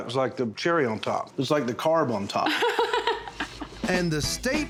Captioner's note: laughs